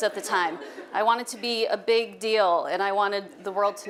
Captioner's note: audience laughing